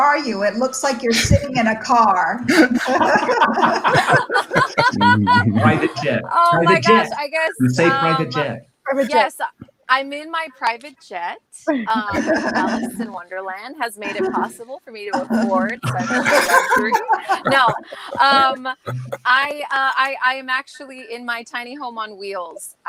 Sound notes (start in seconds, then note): 2.4 participants laughing